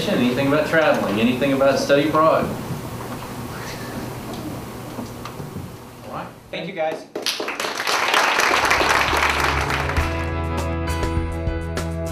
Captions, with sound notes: anything about traveling, anything about study abroad? All right. Thank you, guys. [clapping]